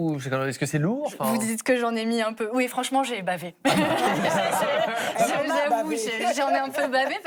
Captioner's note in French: rires